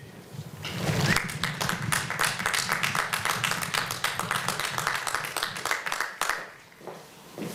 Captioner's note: applause